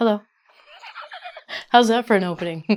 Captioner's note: laughs